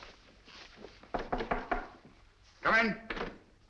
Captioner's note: knock at the door